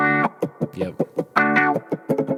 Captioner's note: beat boxing